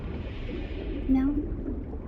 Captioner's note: water bubbling